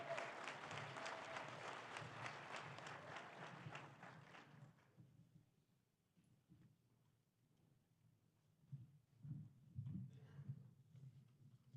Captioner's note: applause